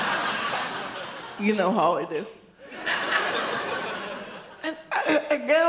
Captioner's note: audience laughs; audience laughs